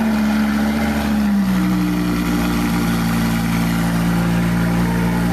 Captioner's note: 发动机声